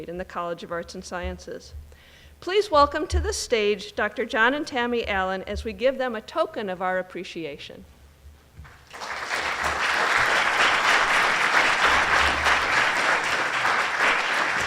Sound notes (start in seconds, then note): 8.7 audience applauding